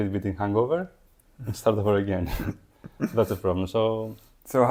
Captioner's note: laughing